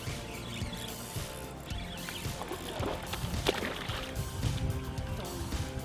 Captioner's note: splash